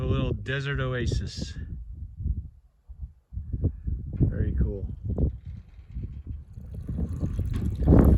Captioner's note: water running